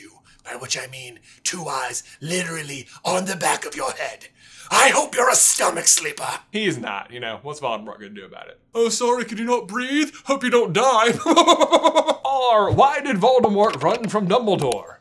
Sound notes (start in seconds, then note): 11.9 chuckle